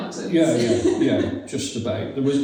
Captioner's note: laughs